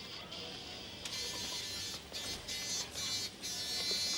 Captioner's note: beeping